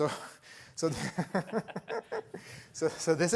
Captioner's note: laughter